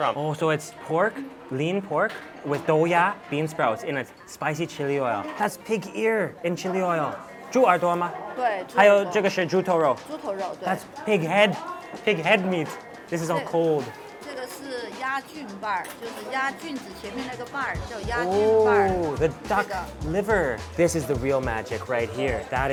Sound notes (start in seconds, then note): 7.3 speaks in a foreign language; 8.3 woman speaks in a foreign language; 9.2 speaks in a foreign language; 10.2 woman speaks in a foreign language; 14.0 woman speaks in a foreign language